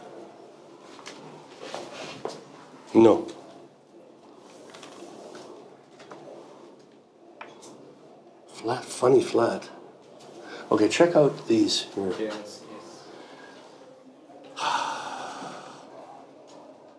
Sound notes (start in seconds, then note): 7.0 sighs